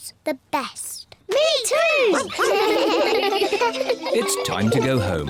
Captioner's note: giggle